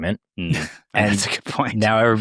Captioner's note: chuckles